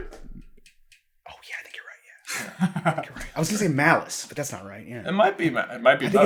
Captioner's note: whisper